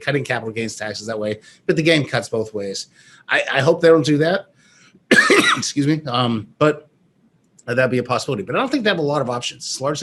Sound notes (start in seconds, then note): 5.0 coughs